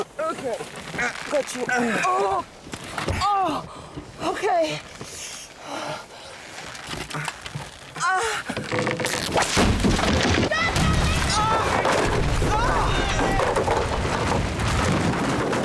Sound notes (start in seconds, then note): 10.4 shouting